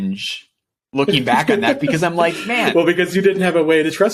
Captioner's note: laughing